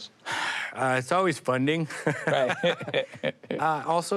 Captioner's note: both laugh